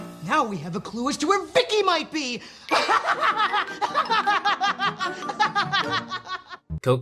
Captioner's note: maniacal laughing